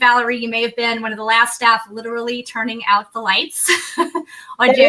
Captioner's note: laughs